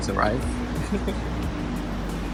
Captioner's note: giggles